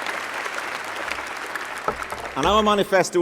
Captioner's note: applause